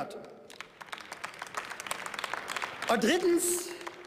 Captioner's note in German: Beifall